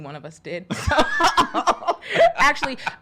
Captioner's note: laughing